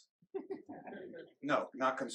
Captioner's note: group laughing